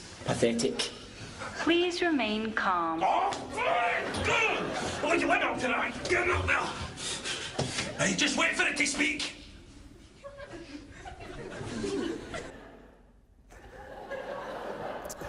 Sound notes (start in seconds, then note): 3.1 screaming; 9.1 laughter